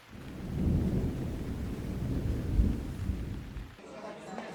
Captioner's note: thunder rumbling